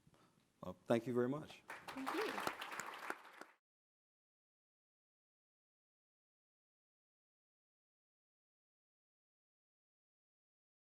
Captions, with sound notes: - Well, thank you very much. (audience applauding) - Thank you.